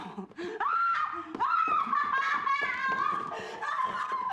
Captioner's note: screams